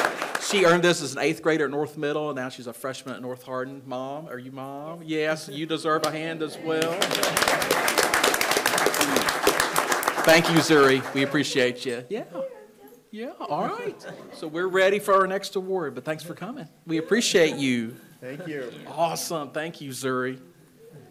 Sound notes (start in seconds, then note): 6.6 attendees applauding; 13.8 attendees chuckling